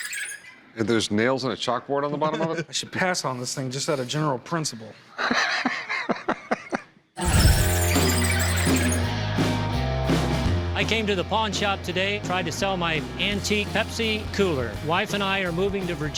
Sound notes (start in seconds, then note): 5.2 Rick laughs; 7.2 wheels squealing; 7.2 rock music playing